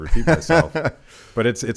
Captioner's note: Dave laughs